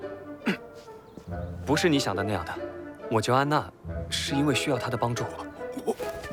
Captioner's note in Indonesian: batuk